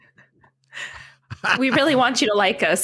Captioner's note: laughter